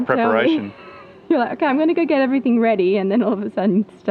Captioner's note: laughing